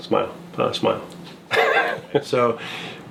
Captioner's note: laughing